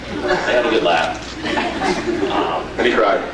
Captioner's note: scattered laughs